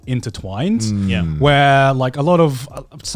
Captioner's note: affirmative murmuring